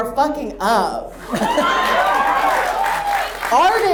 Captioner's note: audience cheers